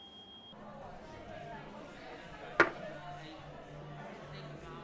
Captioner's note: crowd chattering